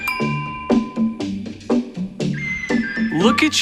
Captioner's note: bell dinging